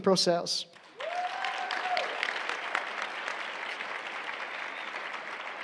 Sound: applause

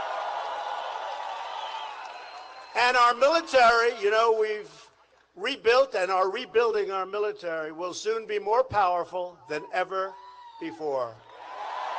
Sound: applause

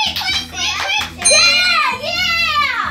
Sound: ding

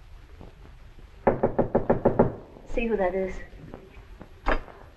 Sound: knocking on door

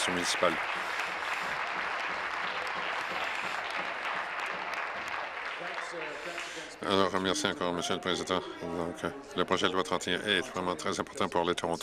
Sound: applause

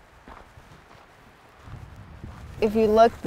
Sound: footsteps crunch

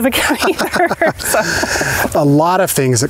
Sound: both laugh

